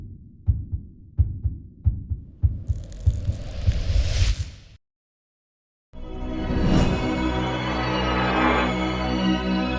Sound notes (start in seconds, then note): 2.0 heartbeat sound